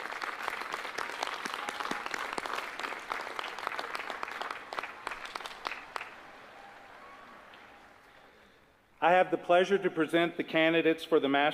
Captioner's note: applause